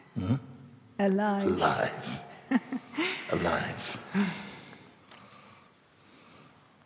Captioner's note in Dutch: lacht